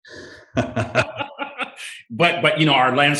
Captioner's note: both laughing